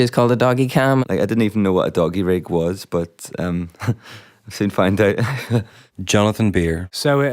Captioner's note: laughs